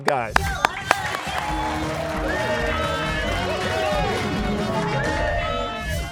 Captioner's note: cheers and applause